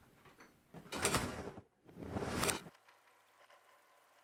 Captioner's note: door slams